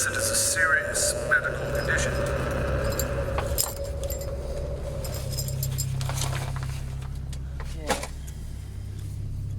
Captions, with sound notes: it is a serious medical condition. (gear rustles)